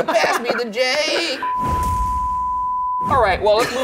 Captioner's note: screen beeping